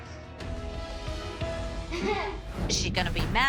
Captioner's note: laughs